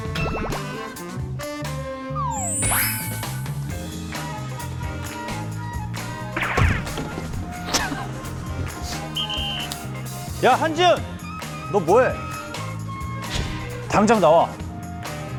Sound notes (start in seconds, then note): 6.5 scurrying away; 7.6 sound of laughter